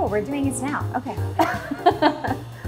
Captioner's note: laughs